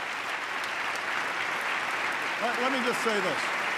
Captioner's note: applause